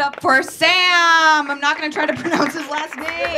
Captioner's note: audience clapping